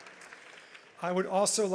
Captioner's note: audience applauds